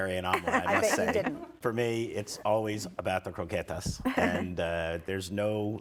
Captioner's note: laughing